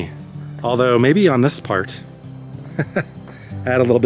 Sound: laugh

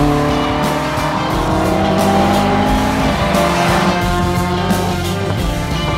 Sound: car engine roars; upbeat music

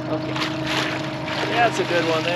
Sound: fish splashing

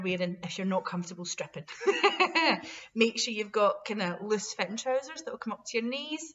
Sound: laughter

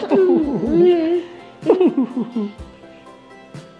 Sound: laughing

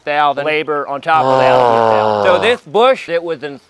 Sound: exhaling

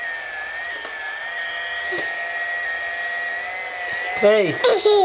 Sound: vacuum buzzing

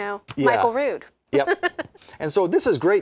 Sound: laughs

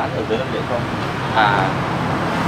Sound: chatting

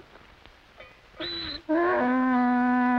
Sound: donkey braying

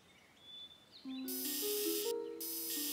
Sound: whirs

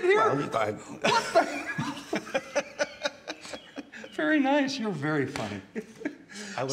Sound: laughter

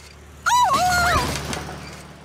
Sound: the sound of an old lady clinging to dear life

